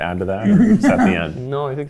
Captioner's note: chuckling